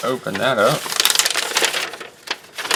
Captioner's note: paper crinkling